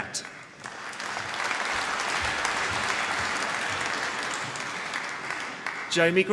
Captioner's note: applause